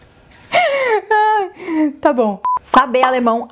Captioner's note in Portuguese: risadas